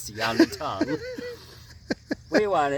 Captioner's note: laughs